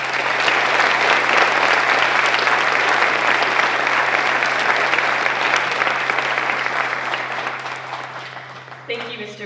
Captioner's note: applause